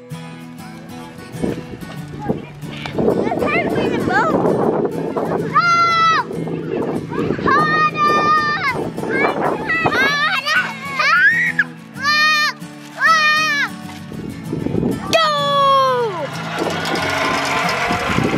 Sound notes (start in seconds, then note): 0.1 light music; 5.0 kids screaming and yelling